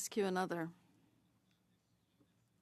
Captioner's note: speaking French